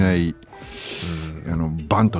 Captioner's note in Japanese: 鼻息